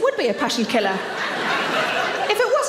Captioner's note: audience laughs